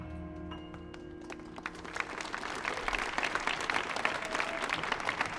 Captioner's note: audience applauding